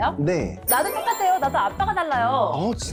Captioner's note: happy to hear it sound effect